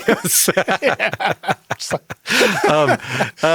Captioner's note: both laugh